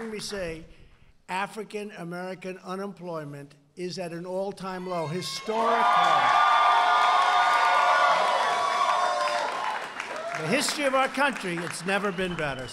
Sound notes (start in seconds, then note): 5.4 applause